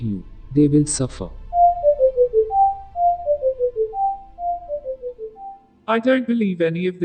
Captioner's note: beeping